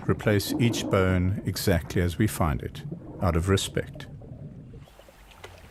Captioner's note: animals calling